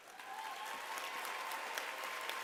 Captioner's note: applause